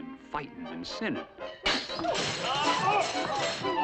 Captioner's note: crashing and yelling